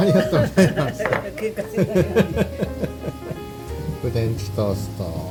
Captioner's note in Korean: 웃음